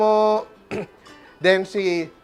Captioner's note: clears throat